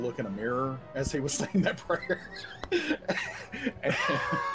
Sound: laughs

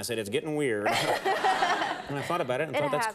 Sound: laughing

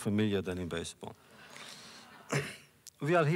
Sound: laughter

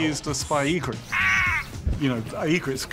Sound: bird squawks

